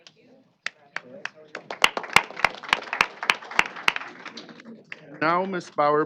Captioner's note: applause